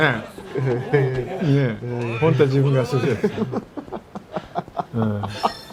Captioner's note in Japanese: 笑い